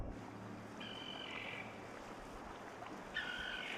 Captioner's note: birds cry